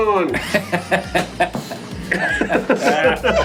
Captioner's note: laughing